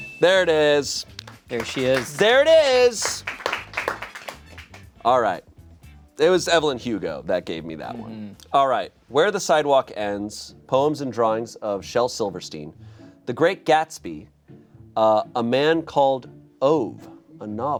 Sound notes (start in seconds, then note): 0.1 bell chimes; 3.5 crew applauds